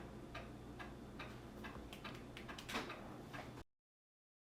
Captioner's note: clock ticking